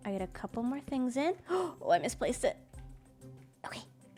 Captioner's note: gasps